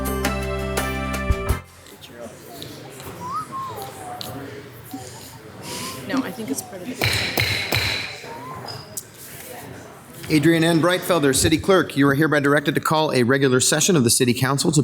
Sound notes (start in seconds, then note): 2.9 whistling; 7.0 banging